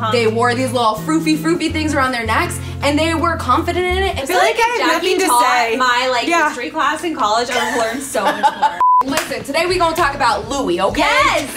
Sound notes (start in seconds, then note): 7.4 laughs; 8.8 beeps